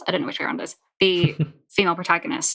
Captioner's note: laughs